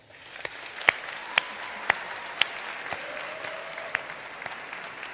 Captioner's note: audience applauding